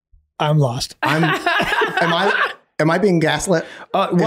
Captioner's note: laughing